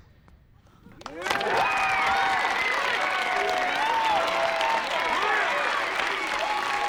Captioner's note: audience applauding; audience cheering